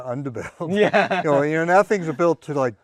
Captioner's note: laughs